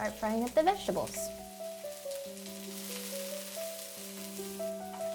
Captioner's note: vegetables sizzle